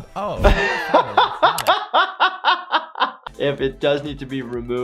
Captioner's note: laughter